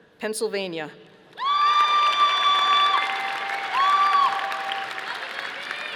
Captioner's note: audience applauding